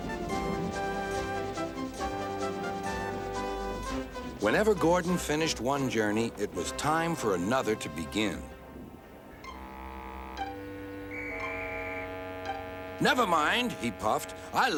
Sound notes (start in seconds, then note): 11.0 whistle blows